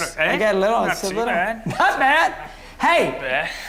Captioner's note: laughs